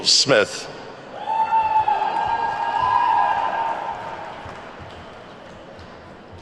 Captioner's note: attendees whooping and clapping